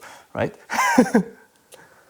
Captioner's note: chuckles